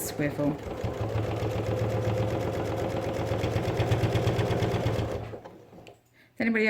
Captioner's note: sound of sewing machine